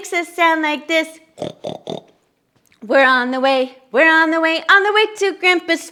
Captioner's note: oink oink oink